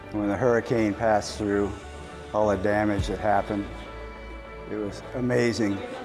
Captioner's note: none